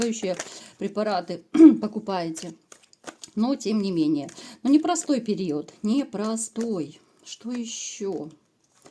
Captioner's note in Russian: откашливается